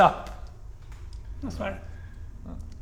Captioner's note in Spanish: Vocecita